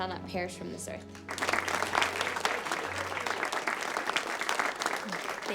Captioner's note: class applauds